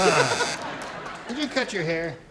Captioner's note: laughter